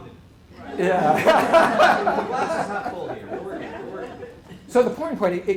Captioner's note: laughter